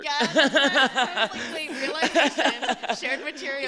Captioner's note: laughter